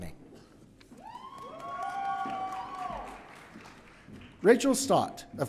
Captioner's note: audience cheering